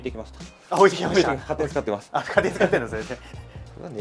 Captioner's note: laughs